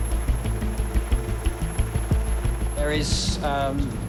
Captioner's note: helicopter blades whirling